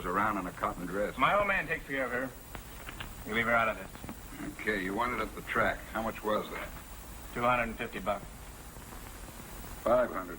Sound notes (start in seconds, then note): none